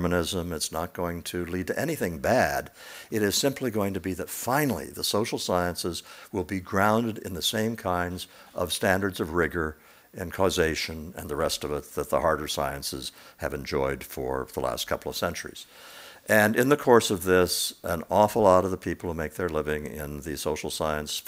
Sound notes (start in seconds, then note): none